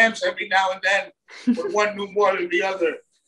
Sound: chuckles

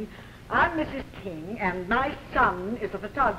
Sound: none

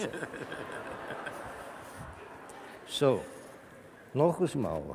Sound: laughter from the audience

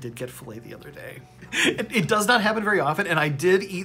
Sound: chuckles

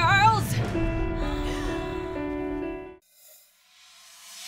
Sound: gasps

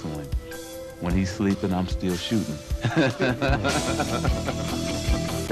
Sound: laughs

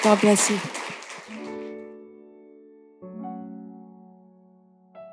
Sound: applause

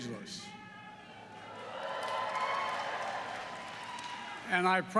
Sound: applause

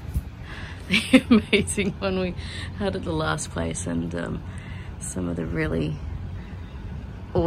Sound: laughing

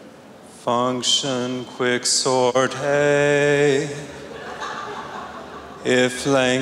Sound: in a preaching voice

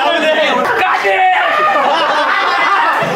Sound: shouting

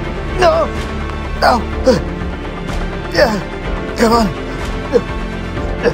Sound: man Grunting; man Struggles

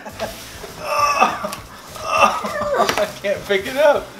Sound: groans

